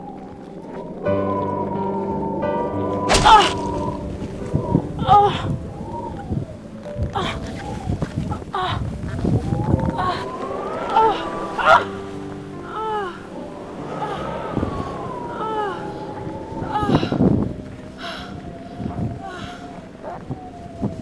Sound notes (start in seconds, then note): 3.1 shovel thudding; 3.3 Holly gasps; 5.4 Holly grunting; 19.2 Holly panting